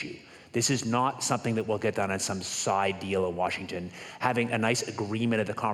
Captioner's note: none